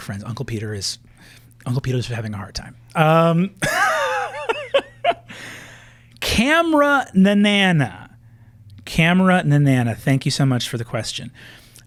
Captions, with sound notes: Uncle Peter is having a hard time. (Laughter) CameraNaNanNa, CameraNaNanNa, thank you so much for the question.